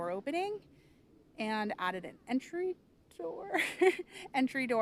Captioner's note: chuckles